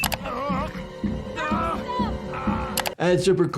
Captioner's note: Logan groans painfully; Yukio shouts